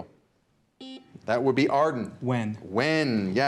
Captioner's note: buzzer beeps